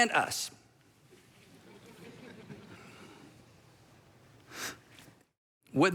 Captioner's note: congregation laughs